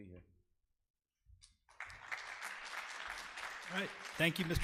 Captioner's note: audience applause